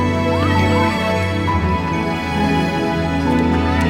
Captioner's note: inspiring music; crowd chattering